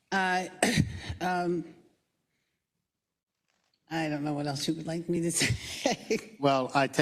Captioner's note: cough; laugh